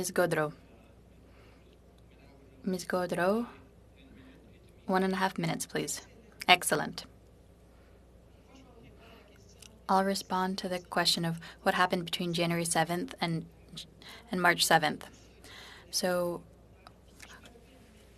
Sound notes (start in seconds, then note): 3.8 speaking French